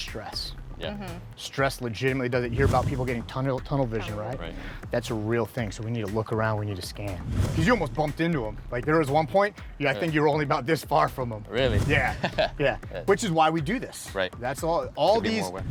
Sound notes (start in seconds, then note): 12.0 laughs